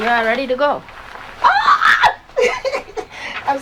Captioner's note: squeals